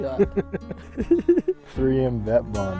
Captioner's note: laughing